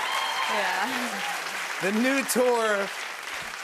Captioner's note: cheers and applause